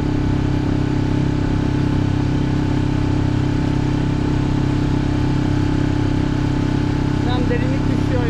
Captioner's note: engine sound